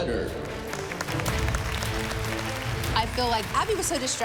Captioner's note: applause